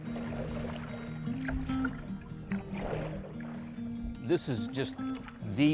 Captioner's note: light guitar music; water flowing